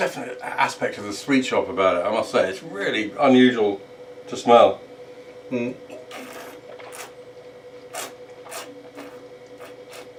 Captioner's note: slurping